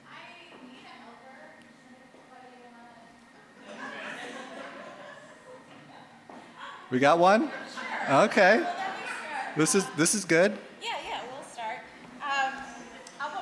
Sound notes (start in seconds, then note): 3.6 audience laughing